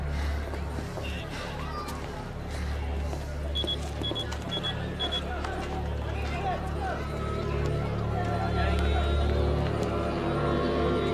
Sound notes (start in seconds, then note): 3.6 electronic beeping; 5.4 dramatic music